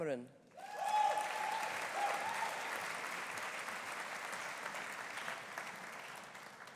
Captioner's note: audience cheering; audience applauding